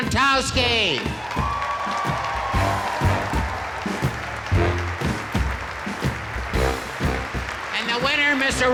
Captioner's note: applause